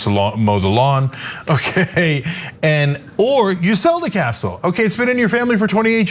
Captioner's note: laugh